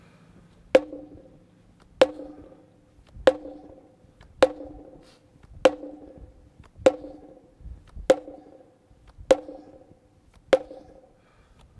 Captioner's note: pounding